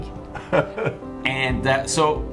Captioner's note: laughing